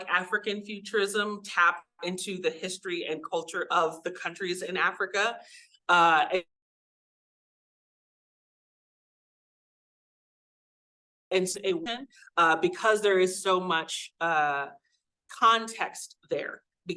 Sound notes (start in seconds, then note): 6.4 audio cuts out